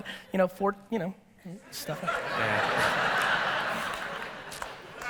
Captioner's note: audience laughter